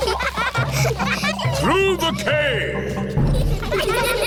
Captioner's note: echoing